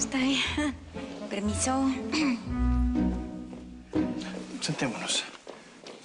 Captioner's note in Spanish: Carraspea